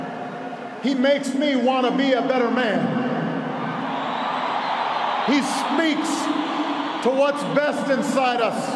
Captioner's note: applause